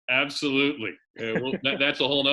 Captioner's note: laughs